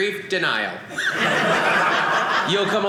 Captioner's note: audience laughing